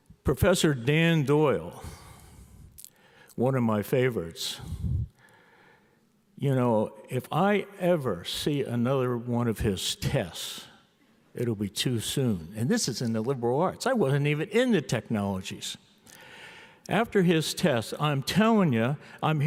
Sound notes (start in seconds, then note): none